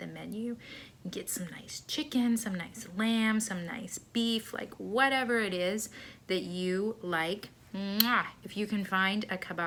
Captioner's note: mwah